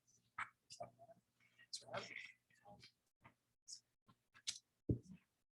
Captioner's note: people chattering indistinctly